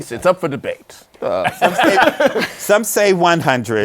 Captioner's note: laughter